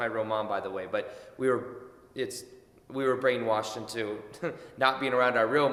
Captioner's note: chuckles